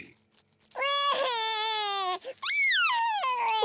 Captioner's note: cries